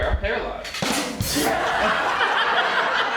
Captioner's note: ba-dum tsss; laughing